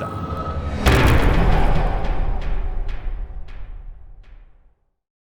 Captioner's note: impact